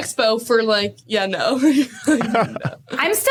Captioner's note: both laughing